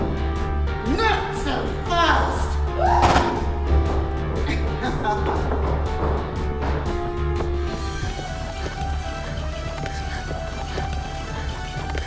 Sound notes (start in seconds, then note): 2.8 Mia screaming; 3.0 gun firing; 4.6 Miss. Fang laughing; 6.6 gentle upbeat music